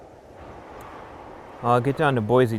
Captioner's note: wind humming